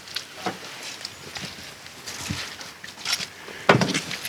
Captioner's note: leaves rustle